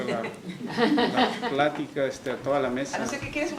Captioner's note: risas